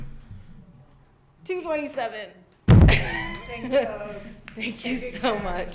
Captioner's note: laughs